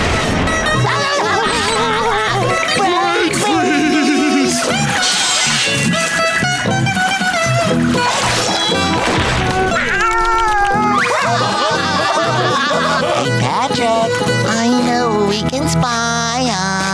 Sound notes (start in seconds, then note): 0.7 laughing; 9.1 meowing; 9.5 laughing